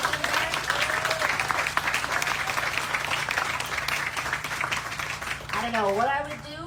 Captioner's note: applause